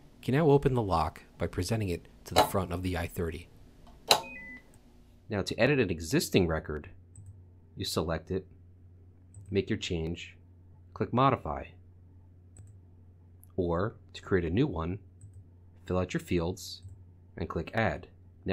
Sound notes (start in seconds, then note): 4.1 lock beeping